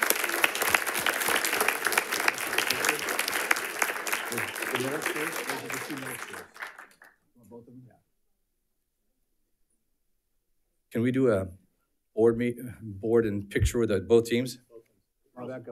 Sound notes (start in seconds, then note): 0.0 audience applauding; 5.1 speaking faintly